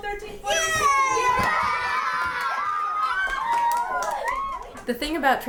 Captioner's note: cheers